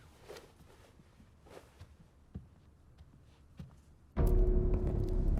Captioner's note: footsteps tapping; intense music